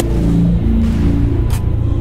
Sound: poof

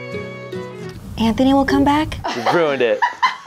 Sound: whispering; laughter

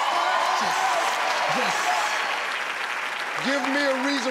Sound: audience cheering

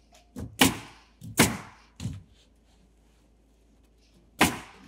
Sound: nail gun bangs

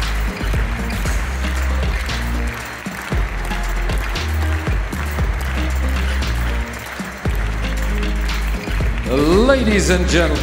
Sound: audience claps in rhythm of the music

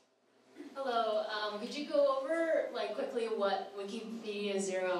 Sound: voiceover

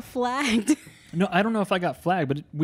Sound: laughs

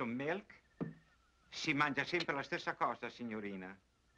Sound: Italian spoken audio

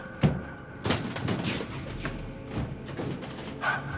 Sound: offscreen thud, clattering

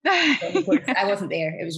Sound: laughs

